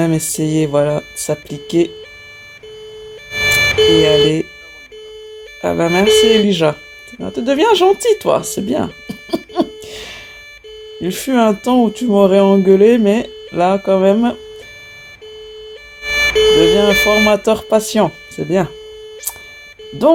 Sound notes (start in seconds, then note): 9.0 laughs